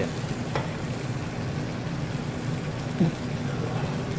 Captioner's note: sizzling